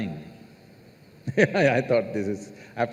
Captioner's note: laughs